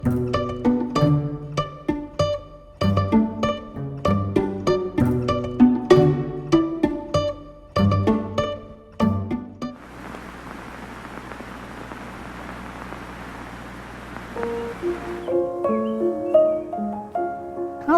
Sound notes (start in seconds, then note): 0.2 classical music; 9.7 old film crackling; 14.4 piano music